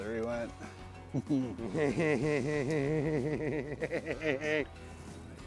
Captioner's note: chuckles